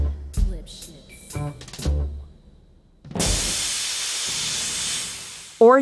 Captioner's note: the sound of a cell door rolling shut transitions to the sound of steam hissing